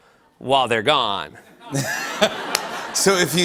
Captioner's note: laughter